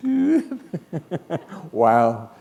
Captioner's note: laughter